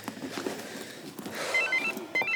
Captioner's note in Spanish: suena el celular